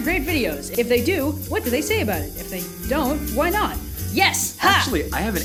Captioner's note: happily